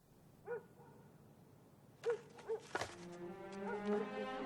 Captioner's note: dog barking; soft music